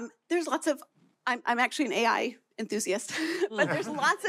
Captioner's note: laughter